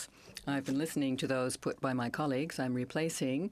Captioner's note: speaking French